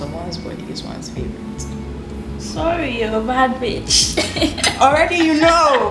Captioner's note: laughs